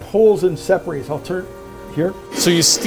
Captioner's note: machine whirring